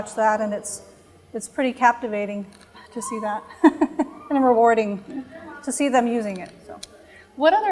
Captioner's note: chuckle